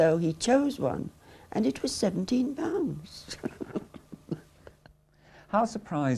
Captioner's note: chuckles